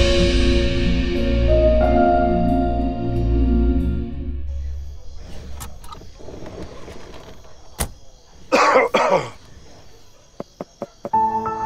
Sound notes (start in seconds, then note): 7.9 Car door closes; 8.4 Cough; 10.3 Knocking